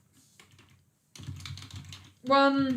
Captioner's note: keyboard clicking